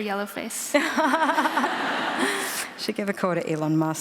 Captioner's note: laughter